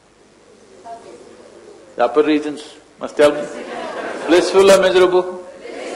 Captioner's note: laughter